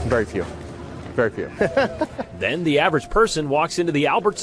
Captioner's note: laugh